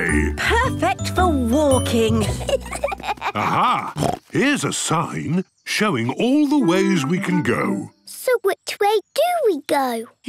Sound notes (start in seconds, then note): 2.1 children giggling; 3.4 snorts